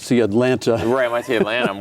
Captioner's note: laughing